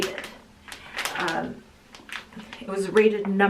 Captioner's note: plastic crinkling